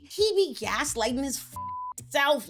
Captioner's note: beep